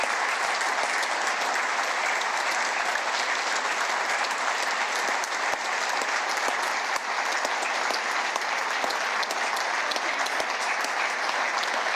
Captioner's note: applause